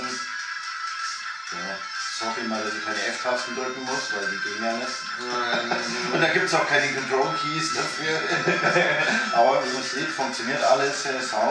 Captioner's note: laughing